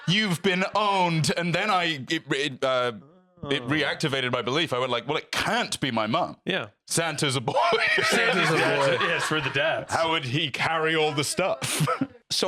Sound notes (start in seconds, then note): 7.4 laughs